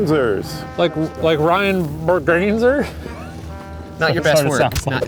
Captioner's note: laughs